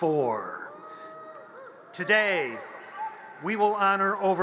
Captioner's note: audience cheers